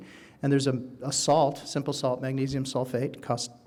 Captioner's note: none